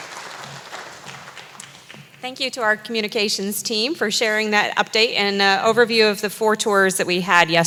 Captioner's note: applause